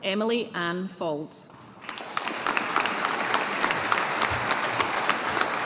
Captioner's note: audience applauding